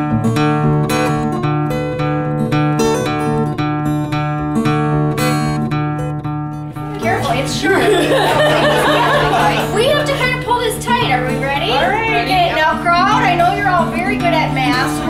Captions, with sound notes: Careful, it's sharp! (crowd laughing) We have to kind of pull this tight. Are we ready? Now, crowd, I know you're all very good at math.